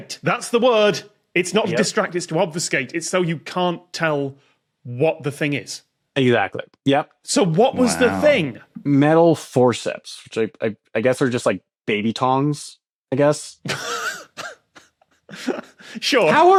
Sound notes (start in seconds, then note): 15.7 wheezes